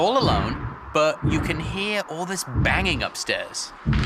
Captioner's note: loud banging